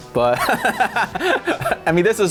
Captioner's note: laughs